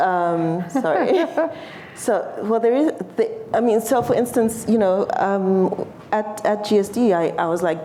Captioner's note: laughter